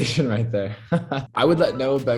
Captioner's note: Noah laughs